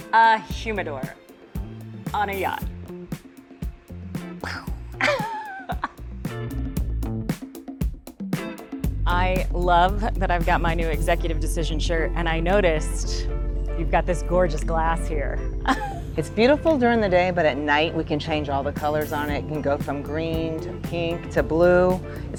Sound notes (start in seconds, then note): 5.0 laughing; 6.8 upbeat music